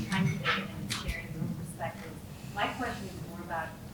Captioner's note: speaking faintly